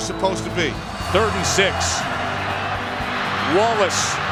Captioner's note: voiceover